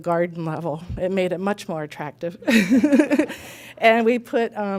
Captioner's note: laughing